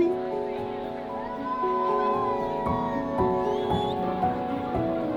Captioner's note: cheering; soft music